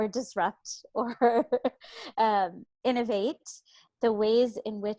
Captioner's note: laughs